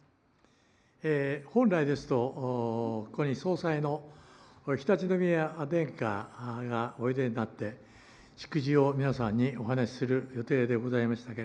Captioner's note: foreign language